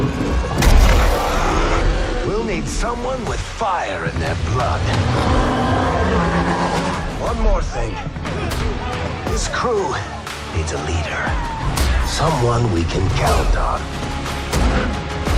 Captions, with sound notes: [roaring] We'll need someone with fire in their blood. One more thing. This crew needs a leader. Someone we can count on.